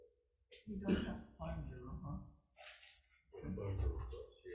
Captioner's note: faintly speaking